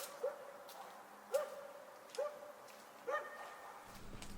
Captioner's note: dog barking